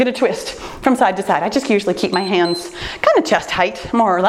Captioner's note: timer beeps